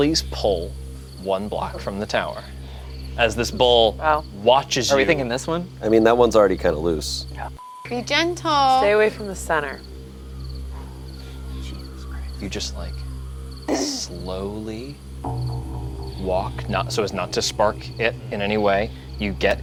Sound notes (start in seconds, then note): 7.2 beeps